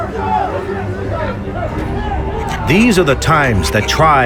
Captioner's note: yelling in background